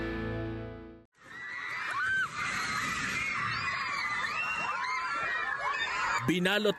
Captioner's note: people screaming in terror